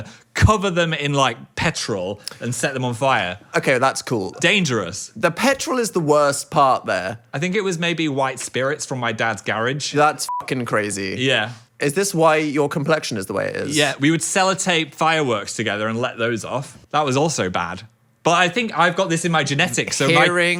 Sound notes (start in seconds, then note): 10.2 beep